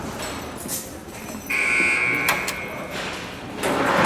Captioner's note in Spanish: ruido de puerta de seguridad